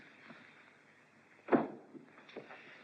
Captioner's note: door closes